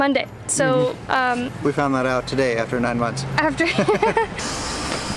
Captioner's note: laughter